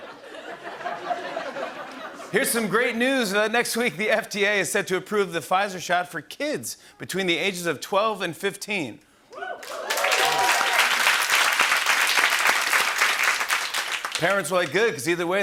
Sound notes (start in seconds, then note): 0.0 laughter; 9.3 cheering and applause